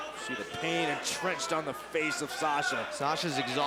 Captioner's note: crowd chatter